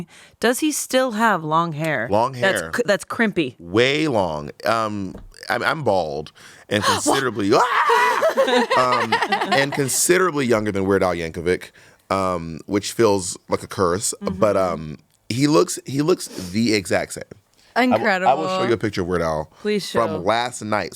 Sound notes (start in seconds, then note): 6.8 Bob yells; 8.4 everyone laughs